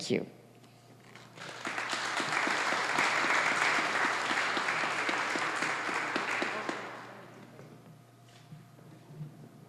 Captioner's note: applause